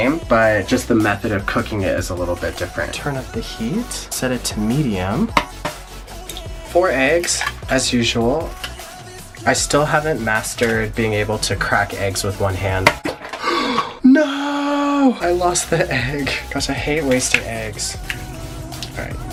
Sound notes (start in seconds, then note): 12.4 egg clanks; 13.3 gasps; 16.2 laughs